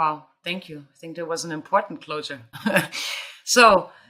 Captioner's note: chuckling